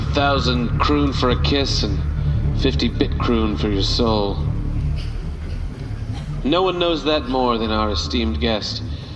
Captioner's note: audience member coughs